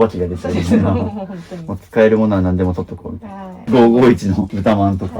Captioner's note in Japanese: 笑い